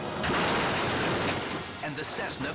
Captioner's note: plane crashes